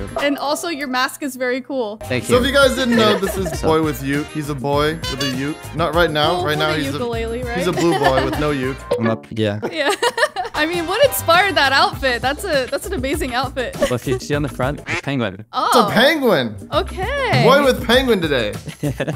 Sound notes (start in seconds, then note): 9.6 laughing amusingly; 18.5 laughing amusingly